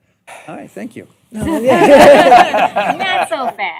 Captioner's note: laughter